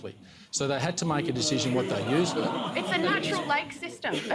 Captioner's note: laughter